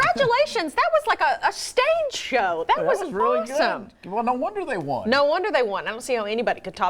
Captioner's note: laughter